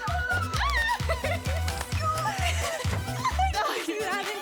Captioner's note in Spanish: Risas y exclamaciones